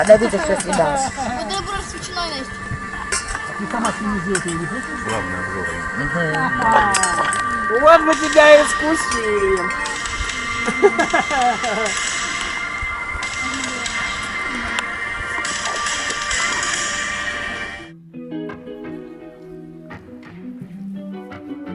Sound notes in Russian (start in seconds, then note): 10.6 смех